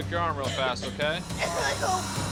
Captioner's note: coughs